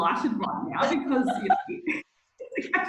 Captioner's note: laughing